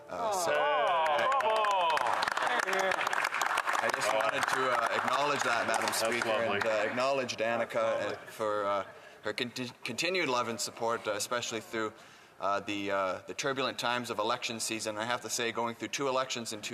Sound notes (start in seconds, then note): 7.1 applause